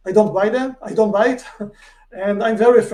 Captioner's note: chuckles